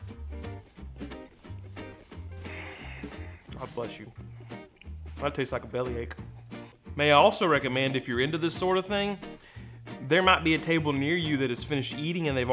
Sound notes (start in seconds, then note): 0.2 jaunty music; 2.4 sighs